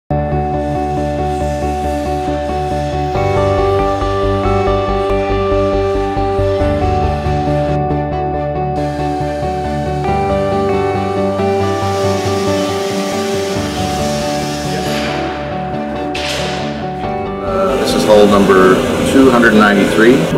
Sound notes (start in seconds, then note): 0.0 hopeful music; 8.7 power tools whirring; 16.1 metal clanging